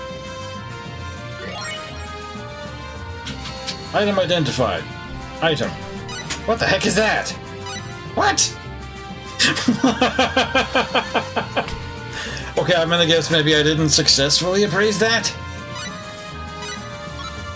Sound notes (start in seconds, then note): 10.1 laughs